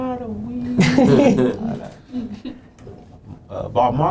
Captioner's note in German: Lachen